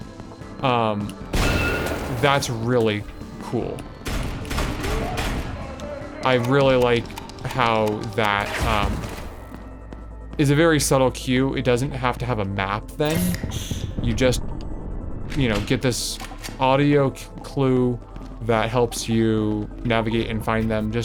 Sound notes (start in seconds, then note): 4.0 gunshots